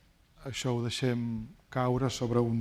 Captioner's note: speaking spanish